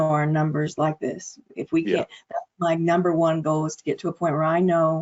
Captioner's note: audio distortion